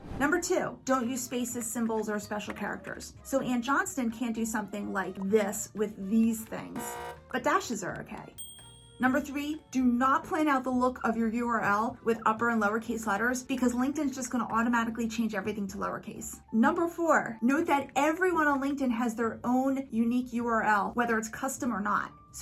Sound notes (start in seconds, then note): 6.7 buzzer buzzes; 8.3 bell chimes